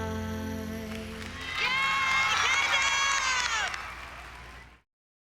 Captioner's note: crowd cheering